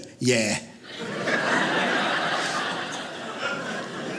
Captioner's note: audience laughing